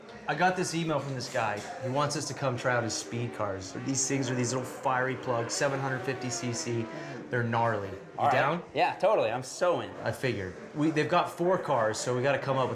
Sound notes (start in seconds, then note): none